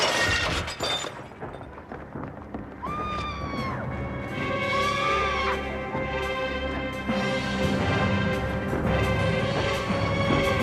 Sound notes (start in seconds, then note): 1.8 wanita berteriak